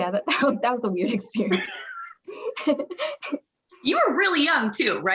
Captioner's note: chuckles